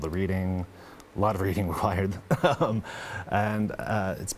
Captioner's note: chuckling